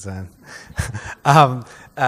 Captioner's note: laughs